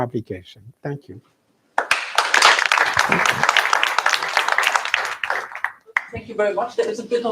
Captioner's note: applause